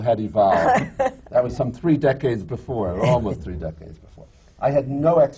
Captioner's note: laughs